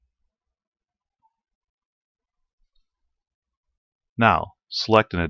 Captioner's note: silence